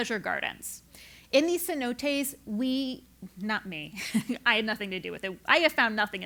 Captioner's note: laugh